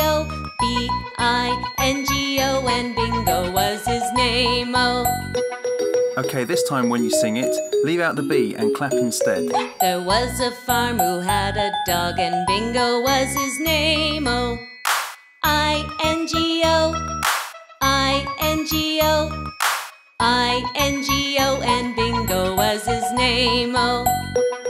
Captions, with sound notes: B-I-N-G-O And Bingo Was His Name-Oh Okay, this time when you sing it, Leave out the 'B' and CLAP instead... There Was a Farmer Who Had A Dog and Bingo Was His Name-Oh [Clap] ...I-N-G-O [Clap] ...I-N-G-O [Clap] ...I-N-G-O and Bingo Was His Name-Oh